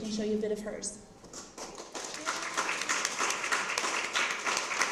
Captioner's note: applause